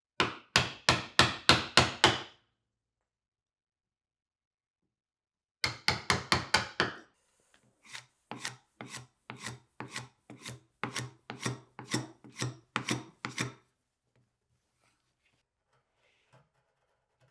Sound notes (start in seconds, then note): 0.2 hammer taps; 7.9 hand tool scrapes